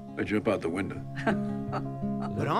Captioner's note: laughter